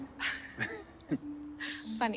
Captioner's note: both chuckling